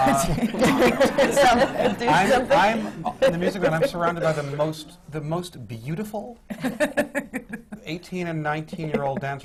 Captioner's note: laughter